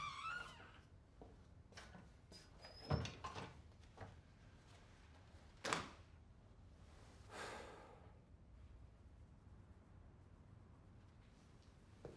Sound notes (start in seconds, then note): 0.0 door creaking; 7.5 Vukasin sighing